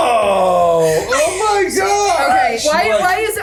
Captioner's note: groaning